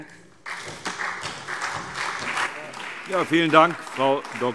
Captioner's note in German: Beifall SPD